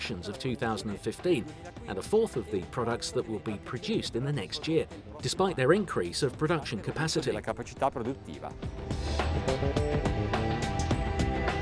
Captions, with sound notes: of 2015 and a fourth of the products that will be produced in the next year despite their increase of production capacity. (speaks Italian) (upbeat music)